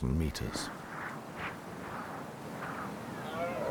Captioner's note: wind blowing